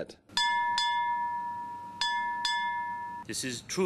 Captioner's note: bell tolls